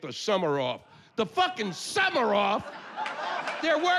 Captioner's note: yelling